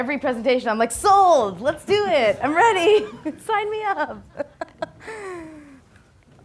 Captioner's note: laughs